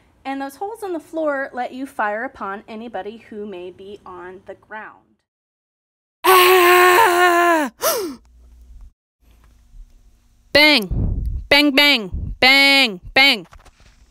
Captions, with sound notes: And those holes in the floor let you fire upon anybody who may be on the ground. [yelling] [gasp] Bang. Bang bang. Bang bang.